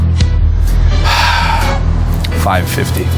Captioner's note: sighs